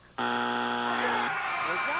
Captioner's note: buzzer